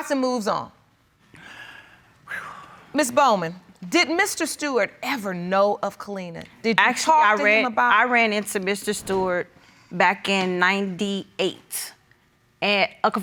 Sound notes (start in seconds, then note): 2.3 sighs